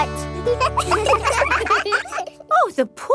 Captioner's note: children laugh